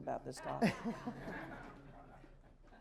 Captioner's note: laughter